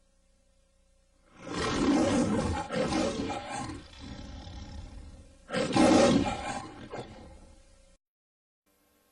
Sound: Leo the Lion roaring, purrs, then roars again

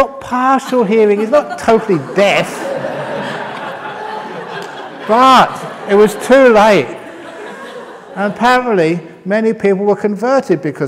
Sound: laughter; laughter

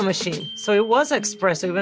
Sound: bell dings

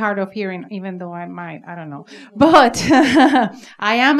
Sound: laughs

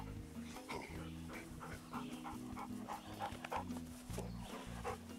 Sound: dogs panting

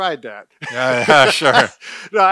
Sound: laughing

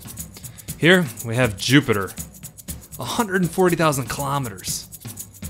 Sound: sigh

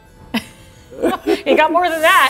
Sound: chuckling

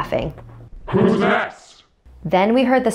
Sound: creepy Voice

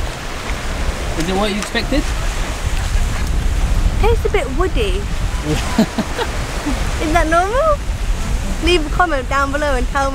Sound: laughs

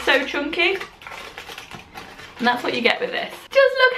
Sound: rustling

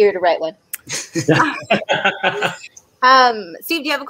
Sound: laughing

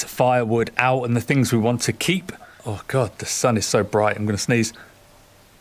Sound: pauses to sneeze

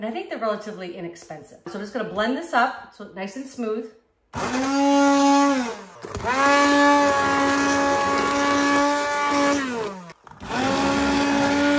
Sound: blender Noise

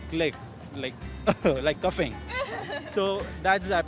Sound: coughs

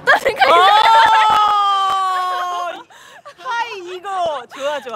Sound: laughing

